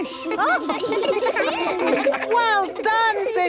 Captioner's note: children laughing